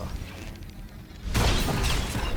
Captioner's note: gun fires